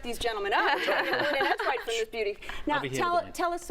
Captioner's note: laughter